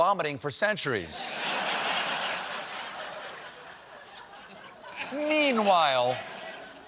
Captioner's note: laughter